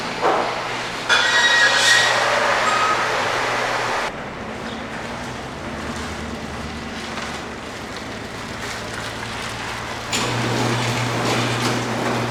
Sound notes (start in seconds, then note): 2.3 car starting